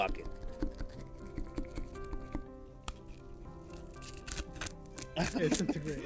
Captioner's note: laughs